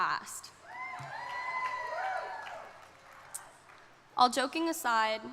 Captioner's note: crowd cheering